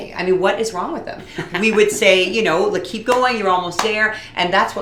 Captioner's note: clap clap